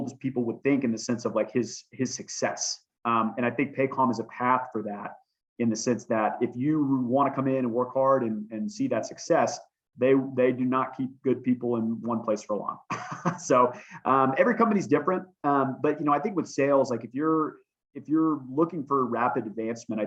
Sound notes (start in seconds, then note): 12.9 laughter